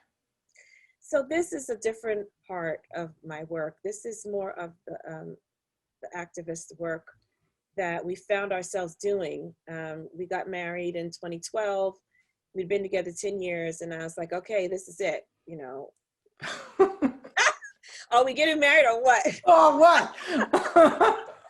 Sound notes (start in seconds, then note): 16.0 all laugh; 20.2 chuckles